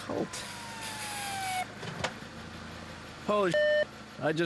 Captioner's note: siren blaring